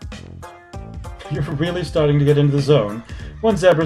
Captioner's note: laughing